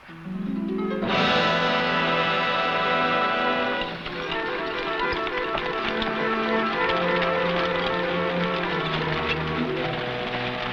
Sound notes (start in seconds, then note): 0.3 dramatic music; 5.2 horse hooves pattering